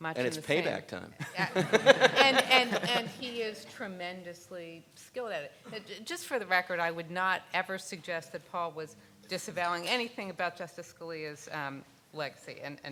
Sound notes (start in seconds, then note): 1.2 laughs